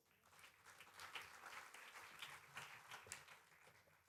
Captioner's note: applause